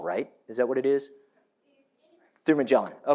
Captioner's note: staff member answers off microphone